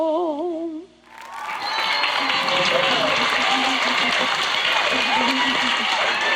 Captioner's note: audience cheering and applauding